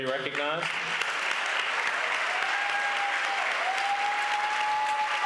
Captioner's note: applause